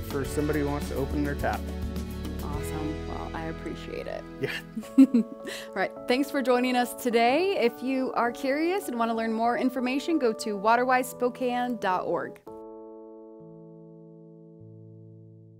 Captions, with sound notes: for somebody who wants to open their tap. - Awesome. Well, I appreciate it. - Yeah. - (giggles) Right. Thanks for joining us today. If you are curious and want to learn more information, go to waterwisespokane.org. (gentle piano music)